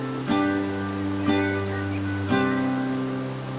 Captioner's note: water rushing; birds singing